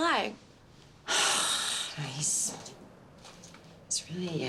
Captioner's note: sighs